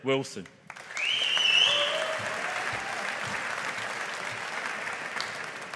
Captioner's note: audience applauding